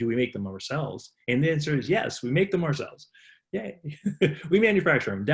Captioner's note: laughs